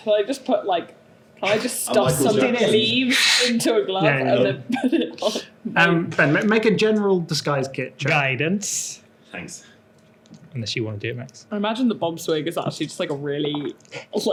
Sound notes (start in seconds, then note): 3.1 blows